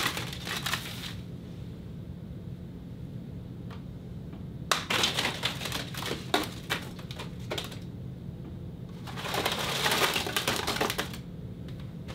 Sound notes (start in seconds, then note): 0.0 sliding; 4.7 hard flick and crumbling